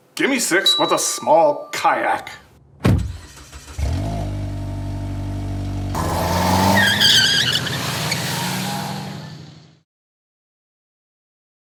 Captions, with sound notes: Gimme six with a small kayak! (kayak screeches)